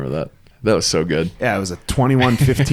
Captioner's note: laughs